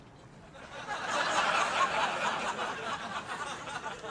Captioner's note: crowd laughs